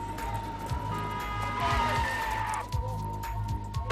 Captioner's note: tires screeching; horn honking; dramatic music